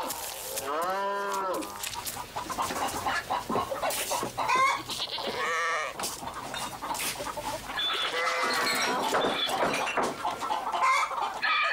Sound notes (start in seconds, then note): 0.6 cows calling; 5.0 chickens calling; 6.3 goats calling